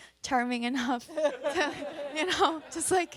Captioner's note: audience and panelists laugh; chuckles